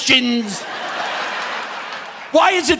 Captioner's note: audience laughing